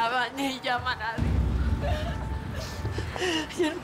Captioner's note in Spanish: Sollozos